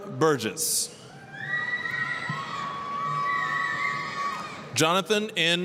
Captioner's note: applause, cheering